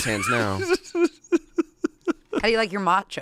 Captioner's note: laughs